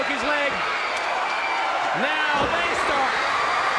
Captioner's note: crowd cheering